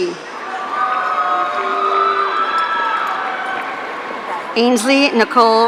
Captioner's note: audience cheering